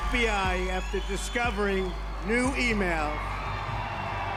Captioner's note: crowd cheering